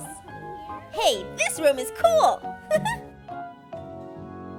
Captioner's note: laughs